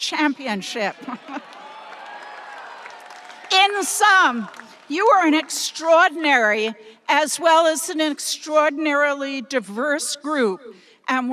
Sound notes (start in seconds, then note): 1.0 chuckles; 1.2 audience applauding and cheering